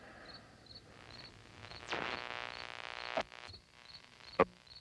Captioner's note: static buzzing; frequencies tuning